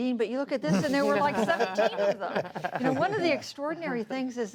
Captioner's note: laughter